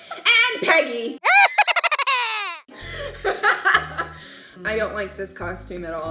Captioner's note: evil laughing